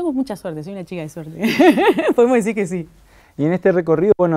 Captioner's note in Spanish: risas